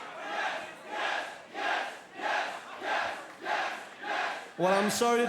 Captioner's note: fans chanting